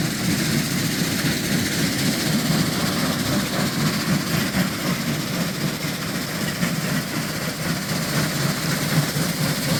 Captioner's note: engine rumbling